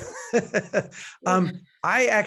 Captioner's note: laughs